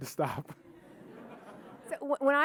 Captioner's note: audience laughing